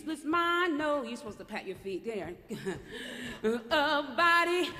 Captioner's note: laughter